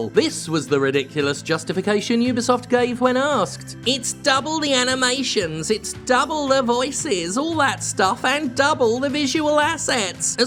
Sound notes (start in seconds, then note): 3.8 mocking